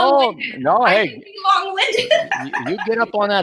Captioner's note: both chattering and laughing